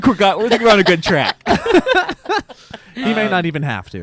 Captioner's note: guys laughing